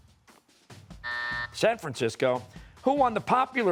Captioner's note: buzzer